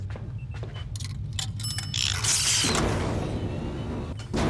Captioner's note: ding